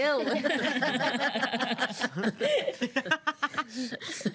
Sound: girls laughing

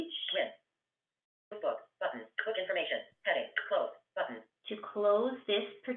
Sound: VoiceOver voice

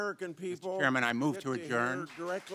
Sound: cheering and applause

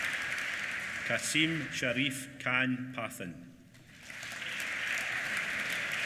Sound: applause

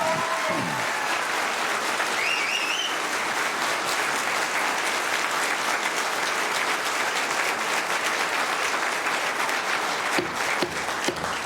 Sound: applause

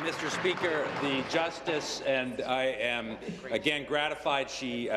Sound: applause

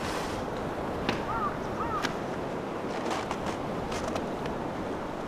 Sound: crow cawing

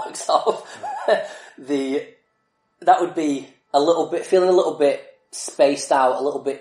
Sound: laughs

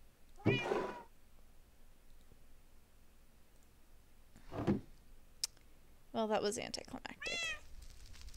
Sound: accidental barrel opening

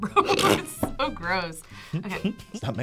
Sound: laughs; laughs

